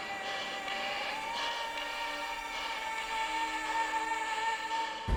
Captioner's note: dramatic music; man breathing heavily